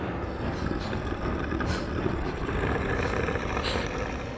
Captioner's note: Eric snarling; dramatic music